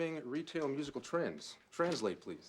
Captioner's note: none